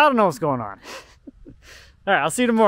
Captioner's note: chuckles